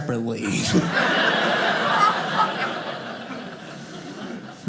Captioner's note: audience laughing